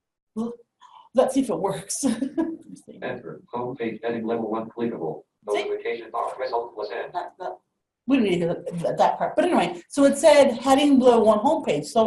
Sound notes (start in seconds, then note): 3.5 laugh; 6.4 rapid artificial speech